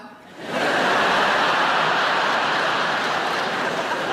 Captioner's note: audience laughing